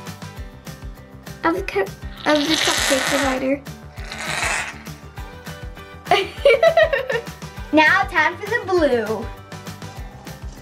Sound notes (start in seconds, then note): 4.5 laughing